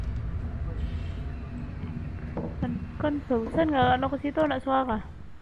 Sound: none

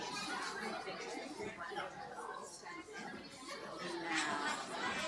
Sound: audience chattering

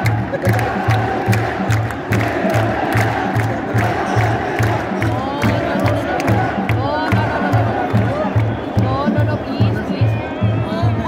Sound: clap

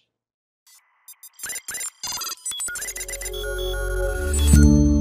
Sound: robotic beeping

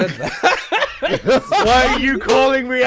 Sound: laughter

